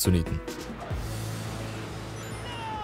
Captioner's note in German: Leise Gamegeräusche